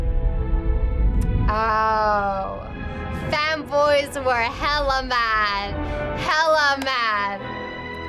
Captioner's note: claps